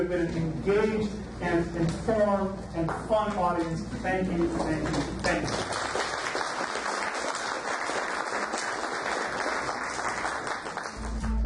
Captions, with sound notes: you have been an engaged, and informed, and fun audience, thank you, thank you, thank you. (audience applauds)